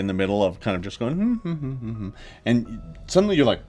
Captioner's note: hums innocently